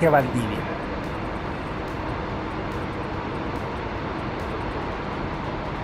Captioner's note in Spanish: sonido ambiente del bus en el terminal